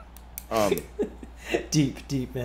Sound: laugh

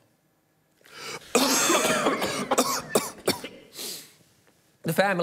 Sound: all coughing

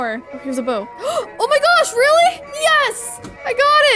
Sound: gasping

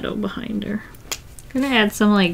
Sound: marker clicks

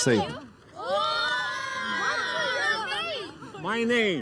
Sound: kids shouting

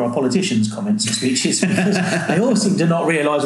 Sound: laughing

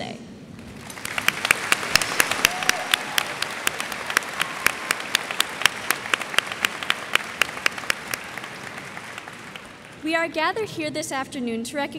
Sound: applause

